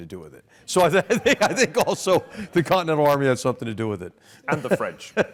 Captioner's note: laugh